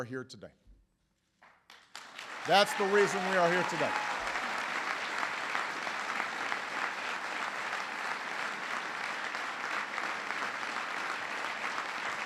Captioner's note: applause; applause